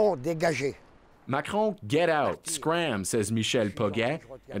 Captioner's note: speaking French